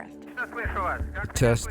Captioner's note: radio chatter in Russian